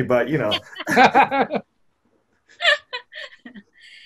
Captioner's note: laughing